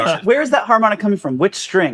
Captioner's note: laughing